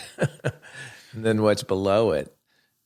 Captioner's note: laughs